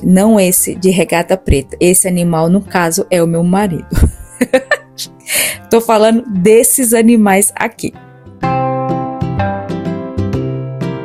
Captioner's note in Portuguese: risada